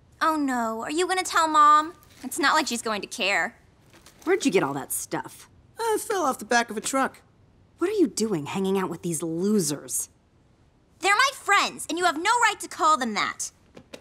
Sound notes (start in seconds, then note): none